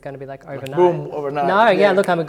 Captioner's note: snaps